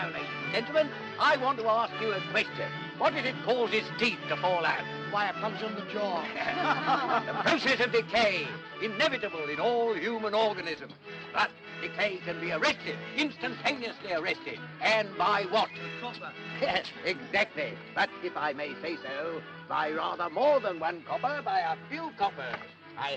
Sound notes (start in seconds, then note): 6.1 laughs